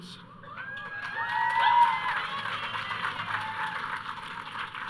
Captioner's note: audience cheering